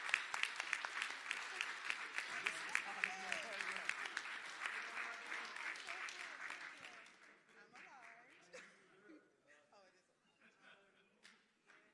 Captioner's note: applause